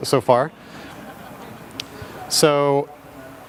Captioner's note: audience laughing